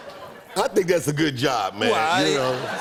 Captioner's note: laughter